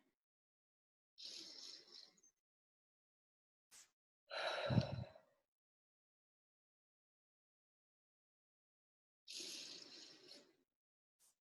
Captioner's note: slow breathing sounds, in and out 2x